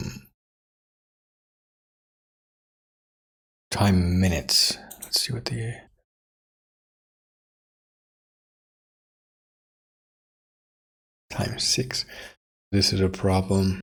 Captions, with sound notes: (Blank Audio) Time minutes. Let's see what the. (Blank Audio) Time six. This is a problem.